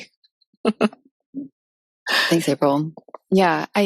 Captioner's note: chuckles